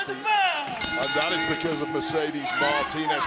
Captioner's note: bell rings